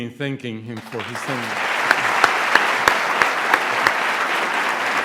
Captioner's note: applause